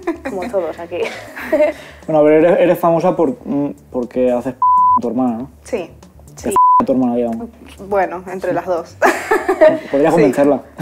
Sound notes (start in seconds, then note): 6.5 beep